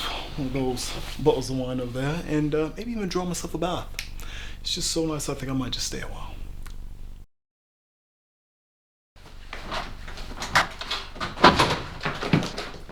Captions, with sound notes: Have myself one of those bottles of wine over there. And uh, maybe even draw myself a bath. It's just so nice I think I might just stay a while. [Door opening]